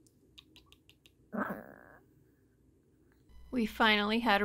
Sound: cute little growl

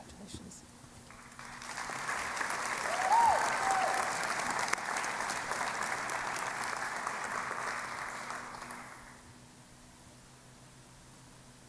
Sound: applause

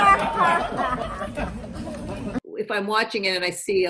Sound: audience laughing

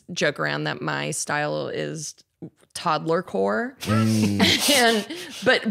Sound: laughs

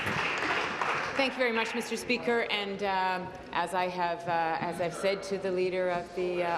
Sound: applause

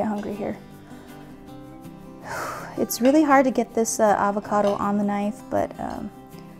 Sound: sighs

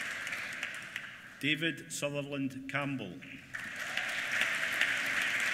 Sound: applause

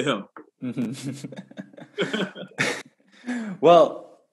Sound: laughs

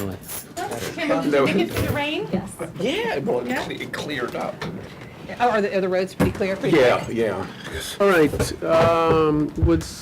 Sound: background chatter

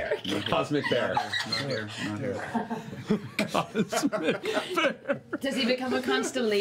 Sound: laughing

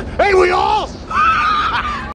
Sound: re-continues laugh sesh

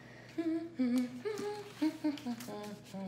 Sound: hums

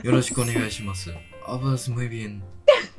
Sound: Spanish

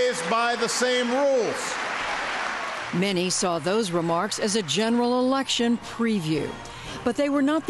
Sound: cheering and applause

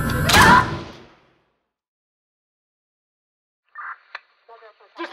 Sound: screams; gunshot

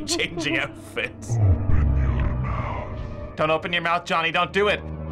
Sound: deep voice

